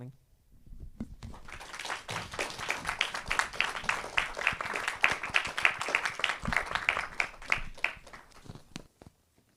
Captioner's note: clapping